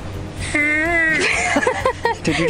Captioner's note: whistles